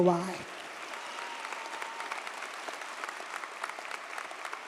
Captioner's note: audience applauds